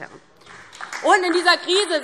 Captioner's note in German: Beifall DIE LINKE